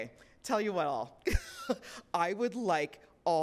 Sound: laughs

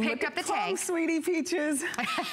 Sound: laughter

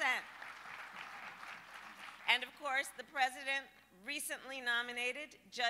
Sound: applause

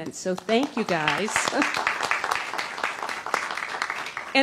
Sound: applause

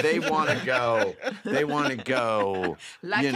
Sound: laughter

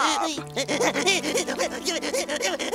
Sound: sobbing

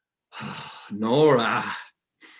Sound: Helmer sighs

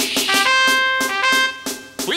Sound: horn blows

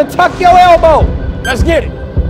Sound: timer beeping

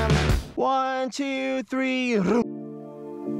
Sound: man groans; slow music

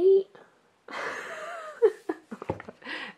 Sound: laughs

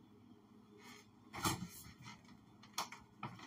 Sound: fridge door opens

